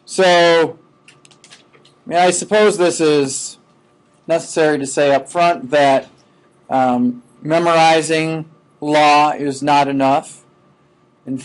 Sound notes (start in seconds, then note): none